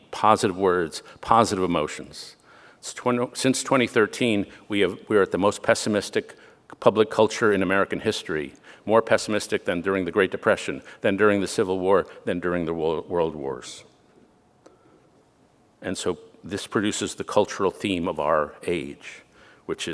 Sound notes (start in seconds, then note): none